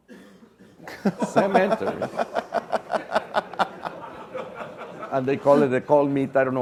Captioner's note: laugh